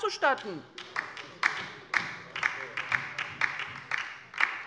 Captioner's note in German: Beifall bei der LINKEN